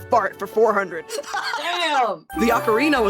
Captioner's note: laughing